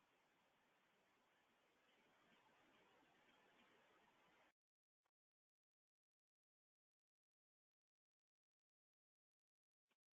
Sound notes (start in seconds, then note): none